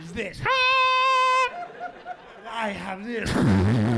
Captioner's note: imitates high pitched horn; imitates horn